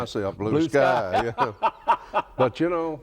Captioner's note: both laugh